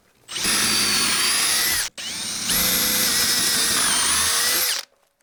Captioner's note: drilling